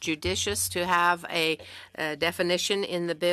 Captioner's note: speaking French